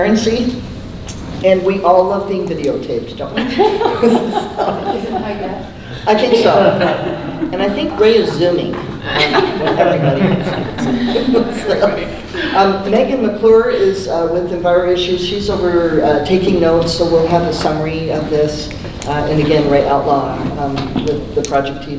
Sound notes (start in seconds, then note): 3.3 people laughing; 5.4 laughing drowns out speaker; 8.8 people laughing